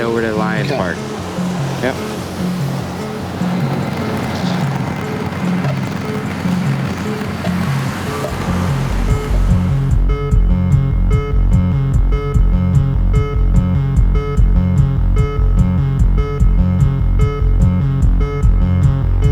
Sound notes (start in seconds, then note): 2.4 anxious music; 2.4 traffic humming